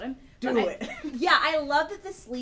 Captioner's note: laughs